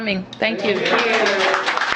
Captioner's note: applause